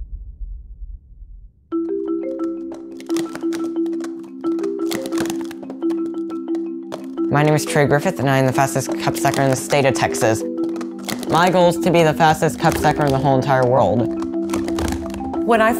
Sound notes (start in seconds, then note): 2.3 cups stacking; 2.3 gentle music